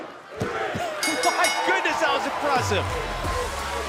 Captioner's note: bell